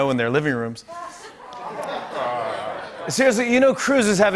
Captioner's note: audience oohs